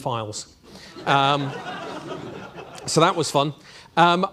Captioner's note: audience laughing